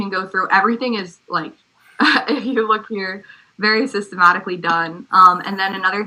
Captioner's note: laugh